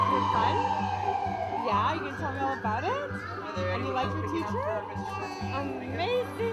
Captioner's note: sirens